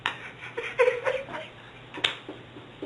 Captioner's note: laughter